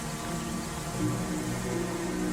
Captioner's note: water running